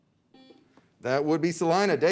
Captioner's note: beep